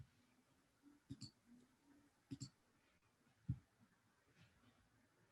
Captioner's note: mouse clicking